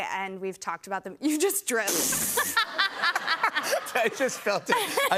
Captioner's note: laughter